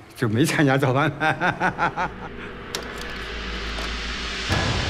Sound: laughing

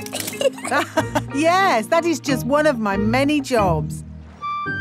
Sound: laughs

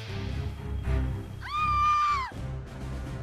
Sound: woman screaming; dramatic music

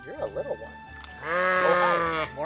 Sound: alpaca sound

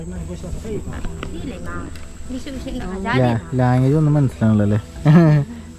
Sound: women chatter

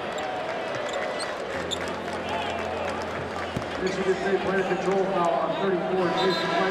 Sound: basketball game horns, squeaks and announcements

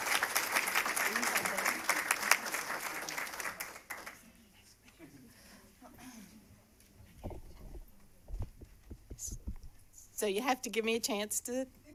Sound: cheers and applause

